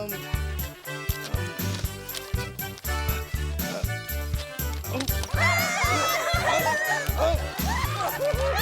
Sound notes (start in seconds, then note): 1.6 papers rustle; 5.1 audience laughs